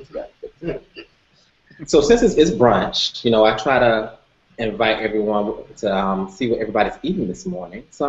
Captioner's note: laughter